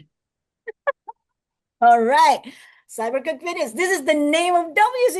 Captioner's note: laughs